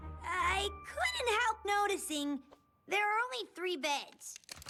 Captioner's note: none